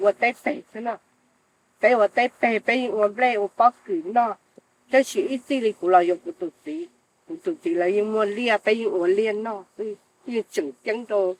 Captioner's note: speaking foreign language